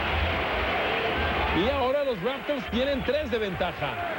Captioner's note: crowd cheering loudly